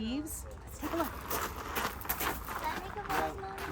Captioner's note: footsteps crunching